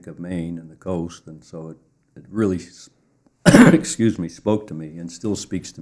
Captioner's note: coughs